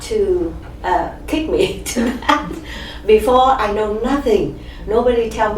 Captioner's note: all laugh